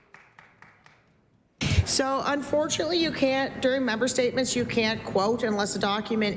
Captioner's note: applause